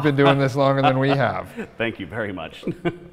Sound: laughs

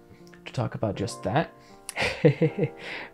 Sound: chuckles

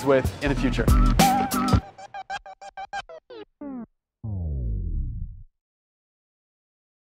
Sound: upbeat pulsating music; record scratches

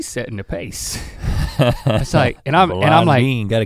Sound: chuckles

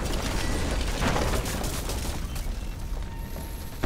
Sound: crashing

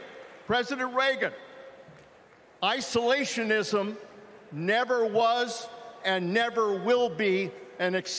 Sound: cheering

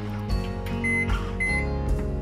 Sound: microwave beeping

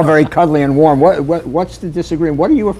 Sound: laughter

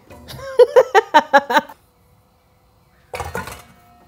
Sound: laughs

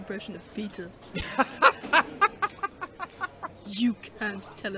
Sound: Sirius laughs loudly

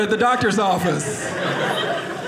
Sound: audience laughing

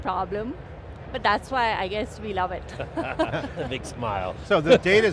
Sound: giggles

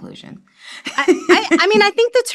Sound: laughs

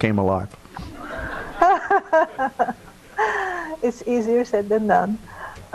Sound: laughing

